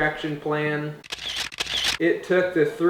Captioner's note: camera shutter